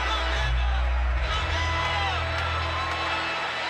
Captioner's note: crowd clamors